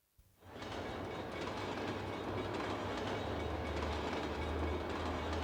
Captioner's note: train ringing and clanking